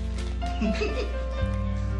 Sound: both giggle

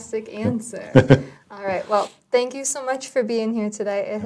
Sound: laugh

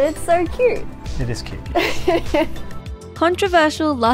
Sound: laughing

